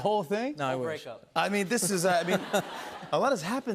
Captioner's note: laughter